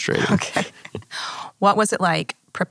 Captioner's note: laughs